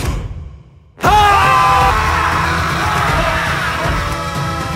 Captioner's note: people screaming